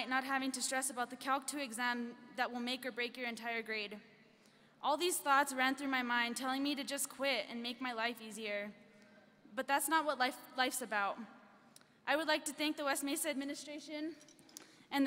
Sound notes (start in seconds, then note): none